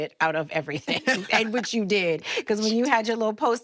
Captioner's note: Enuka laughs